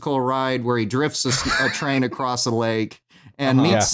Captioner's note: laughs